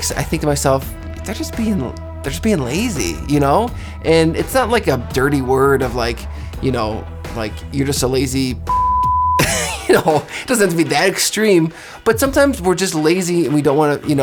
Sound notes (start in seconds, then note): 8.7 beeps; 9.4 laughs